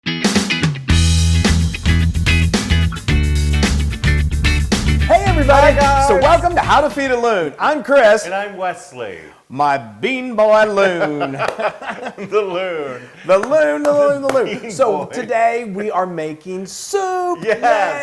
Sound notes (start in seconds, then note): 10.7 laugh